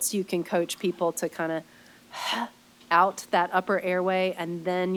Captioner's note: sharp breath